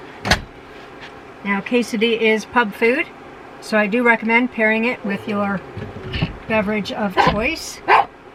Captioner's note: bark